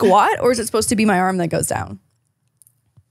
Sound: laugh

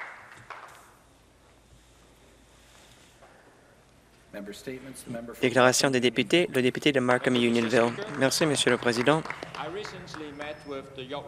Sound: some Applause

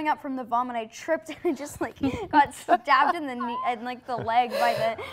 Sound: laughing

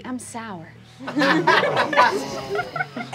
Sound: laughing

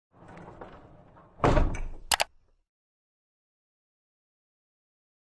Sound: rolling, clanking, and clicking

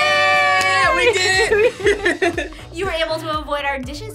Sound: laughs

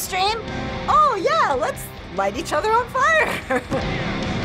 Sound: chuckles

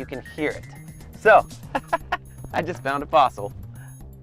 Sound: laughing

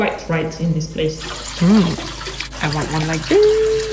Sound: water rushing

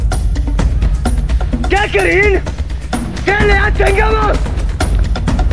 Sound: in Hindi

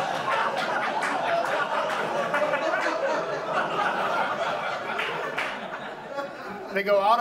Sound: audience laughs

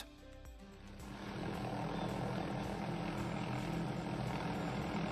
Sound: machine grinding

